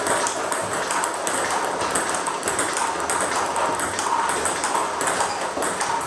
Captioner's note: ball ping pong hitting continues